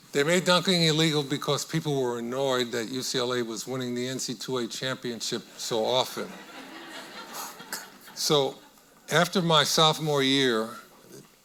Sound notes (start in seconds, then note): 6.2 audience laughing